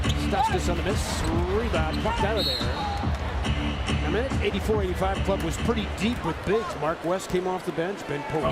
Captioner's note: crowd noise; loud music playing